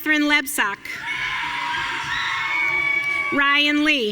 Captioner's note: audience cheering